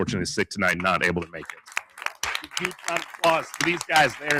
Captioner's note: crowd applauding